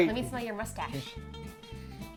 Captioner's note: sniffers